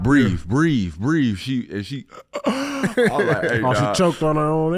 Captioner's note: gasping for air